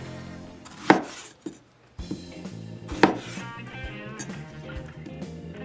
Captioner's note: knife chopping